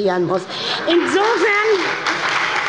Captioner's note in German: Heiterkeit und Beifall bei der SPD